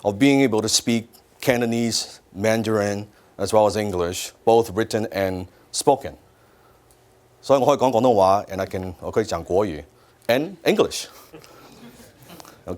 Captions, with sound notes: of being able to speak Cantonese, Mandarin, as well as English, both written and spoken. So (speaks foreign language), and I can (speaks foreign language), and English.